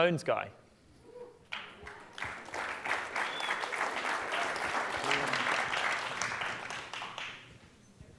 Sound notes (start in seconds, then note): 1.5 applause